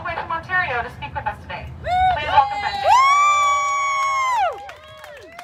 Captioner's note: cheering